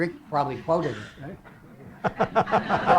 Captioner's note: laughter